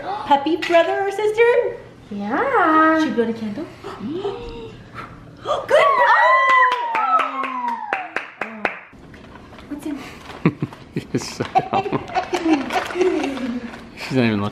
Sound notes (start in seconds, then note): 4.2 mom puffs; 6.3 applauding; 10.9 dad laughing